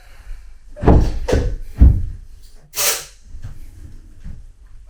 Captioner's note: stone slab thuds